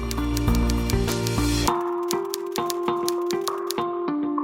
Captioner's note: typing sounds